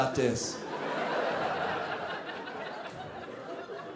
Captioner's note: audience laughing